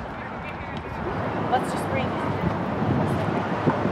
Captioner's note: people talking in background